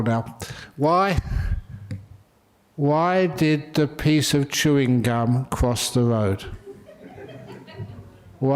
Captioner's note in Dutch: lachen